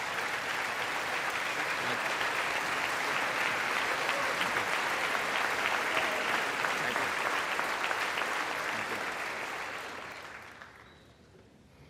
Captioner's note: applause